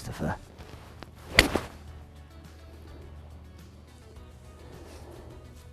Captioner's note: golf ball cracking